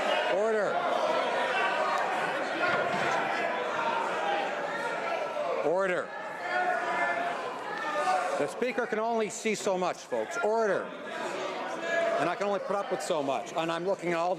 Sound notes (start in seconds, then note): 4.2 shouting